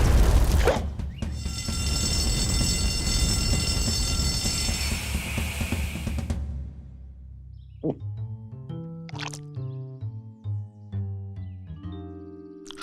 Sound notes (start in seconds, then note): 1.3 alarm ringing